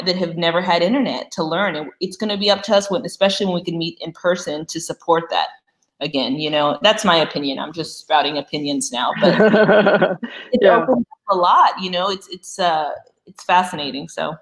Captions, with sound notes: that have never had internet to learn. It's gonna be up to us, especially when we can meet in person to support that. Again, you know, that's my opinion, just sprouting opinions now. (laughter) It opens up a lot, you know, it's fascinating.